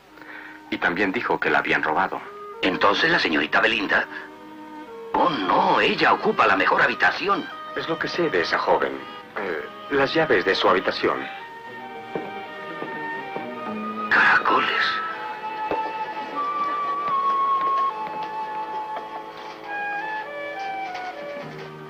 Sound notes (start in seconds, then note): 13.1 sighs